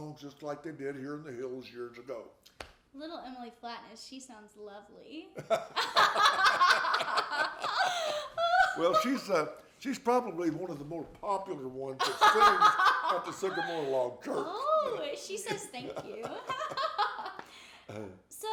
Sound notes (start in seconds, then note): 5.4 both laughing; 17.7 laughing